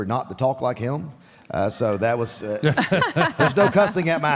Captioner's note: Michelle and Mark laughs